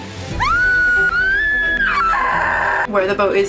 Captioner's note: screaming